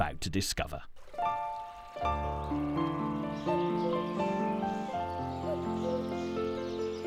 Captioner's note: gentle music continues; water whooshing